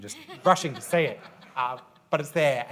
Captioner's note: audience laughs